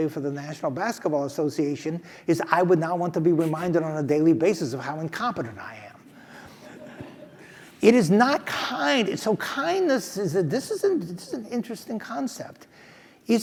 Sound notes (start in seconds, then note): 6.4 laugh